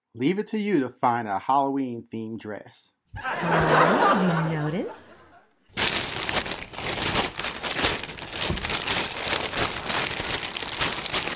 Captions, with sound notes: - Leave it to you to find a Halloween themed dress. (laughter) - You noticed. (paper rustling)